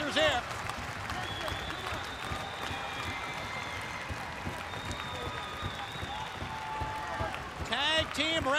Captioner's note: crowd cheering